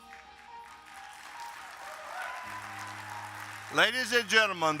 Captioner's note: audience applauding